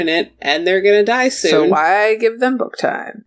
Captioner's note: sarcastic tone